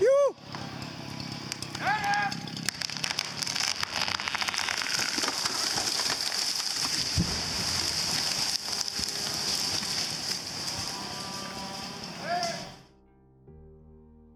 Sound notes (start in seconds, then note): 0.1 men yelling; 2.2 tree creaking